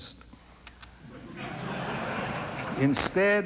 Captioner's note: laughing